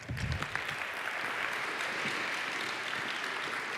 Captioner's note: applause